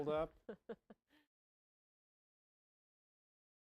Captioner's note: laughter